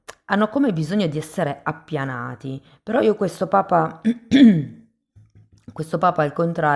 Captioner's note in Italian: schiarire la voce